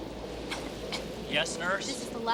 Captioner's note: child coughing